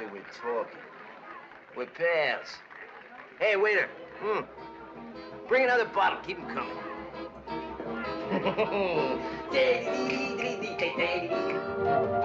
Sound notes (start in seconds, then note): 9.3 mimicking the band